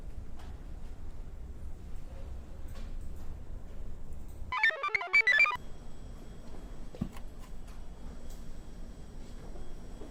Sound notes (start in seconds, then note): 4.5 computer chirps